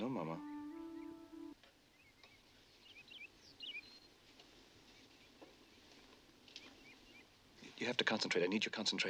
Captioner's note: Bis Chirping